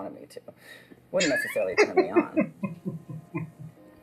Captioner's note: laughing